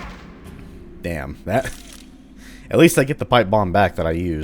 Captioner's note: whack; chuckles